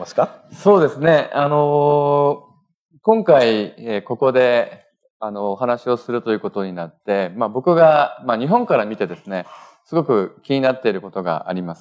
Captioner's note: speaking japanese